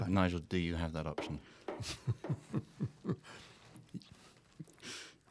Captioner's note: taps Cane Three Times